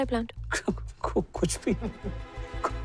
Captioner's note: giggling